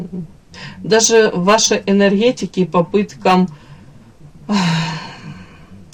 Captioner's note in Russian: вздыхает